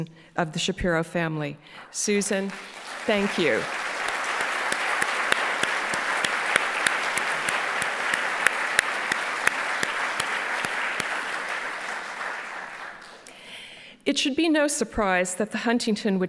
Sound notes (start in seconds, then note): 4.1 applauding; 4.1 audience applauding